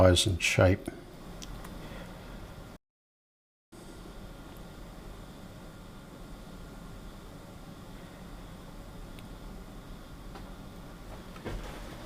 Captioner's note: silence